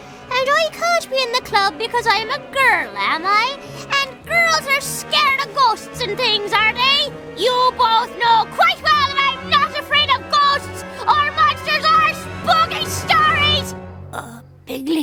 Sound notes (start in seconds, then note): none